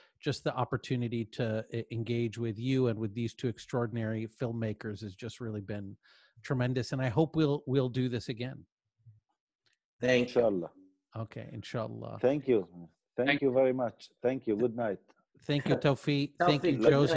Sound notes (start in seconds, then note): 10.4 foreign Language 01:30:42; 11.1 foreign Language 01:30:43